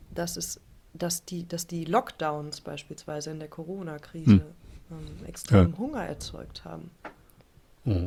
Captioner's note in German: räuspern